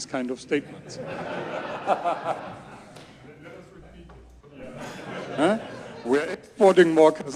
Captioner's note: audience laughs